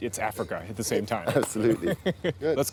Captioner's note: laughs